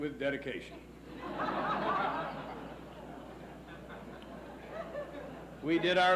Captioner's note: laughs